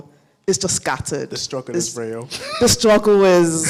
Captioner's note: laughs